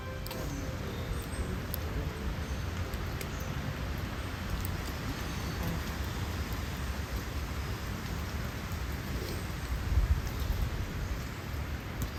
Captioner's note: woodland sounds